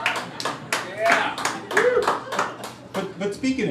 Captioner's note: crowd laughing and clapping